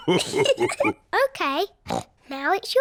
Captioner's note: laughs